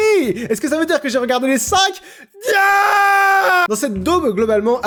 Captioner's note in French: Cri de désespoir